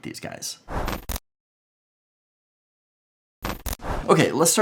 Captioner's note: whooshing